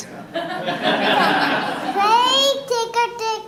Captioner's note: audience laughing